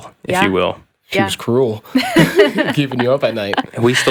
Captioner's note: laughs